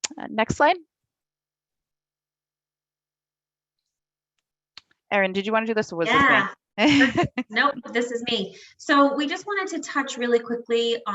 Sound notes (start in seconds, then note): 6.8 laughs